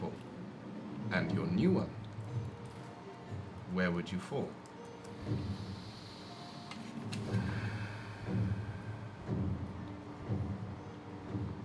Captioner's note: sighs